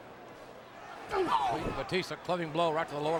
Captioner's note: wrestlers grunting